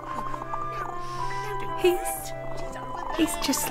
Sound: sniffing

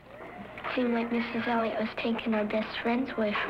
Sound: voiceover

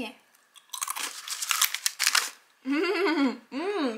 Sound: crunchy

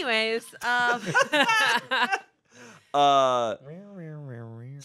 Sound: everyone laughs

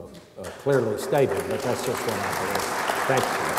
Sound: audience applauds

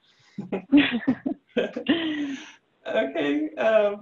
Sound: laughing

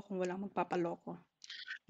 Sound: laughs

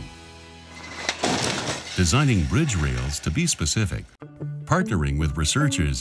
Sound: crash Test Screech

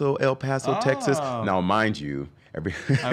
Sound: chuckles

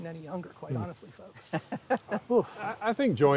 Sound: laughing

